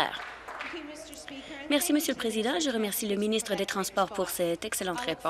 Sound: applause

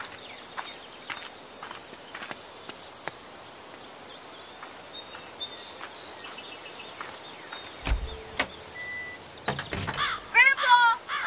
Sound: nature sounds

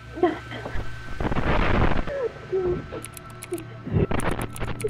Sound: Static, Tyler crying

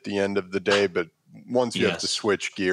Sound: chuckles

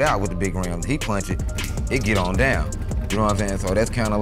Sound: snaps

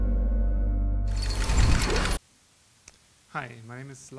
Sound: gate closing

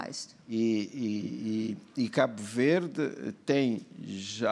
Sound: speaking portuguese

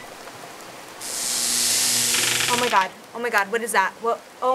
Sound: rain pouring; loud electrical crackling

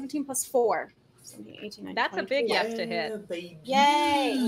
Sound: counts quietly

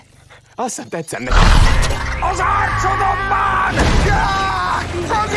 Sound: screaming

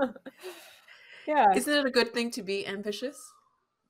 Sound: laughing

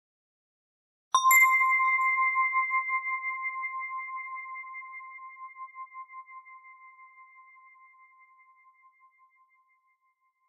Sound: sound of Christmas bell

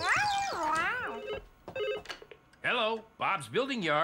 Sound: phone Ringing

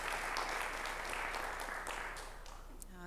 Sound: applause

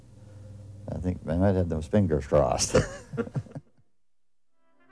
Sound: laughs

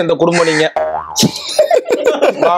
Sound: laughs

